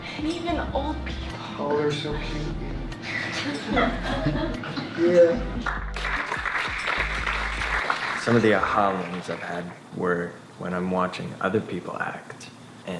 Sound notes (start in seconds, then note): 3.3 laughter; 5.6 applause